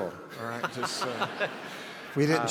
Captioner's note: laughs